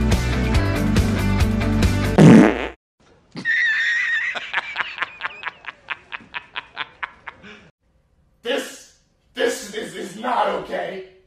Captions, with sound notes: *raspberry* *horse-laugh* This.. This-this is not okay!